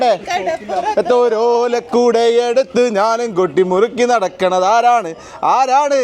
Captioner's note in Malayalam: പൊട്ടിച്ചിരി